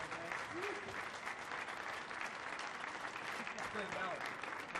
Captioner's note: audience clapping; audience cheering